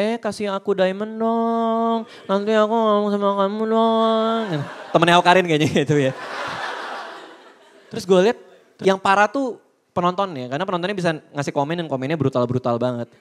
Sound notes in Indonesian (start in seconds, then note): 6.5 Audience Tertawa